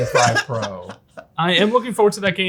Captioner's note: laughs